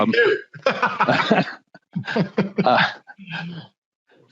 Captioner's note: laughing